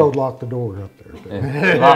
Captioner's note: laughing